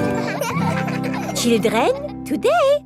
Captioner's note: children laughing